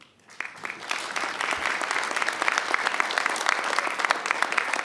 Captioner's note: audience applauding